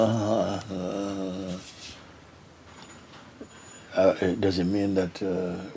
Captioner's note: makes mumbling sound